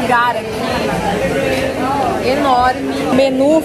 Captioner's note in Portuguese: ambiência de restaurante